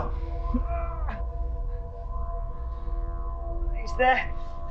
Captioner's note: Sam groans